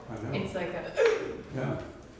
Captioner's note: gasping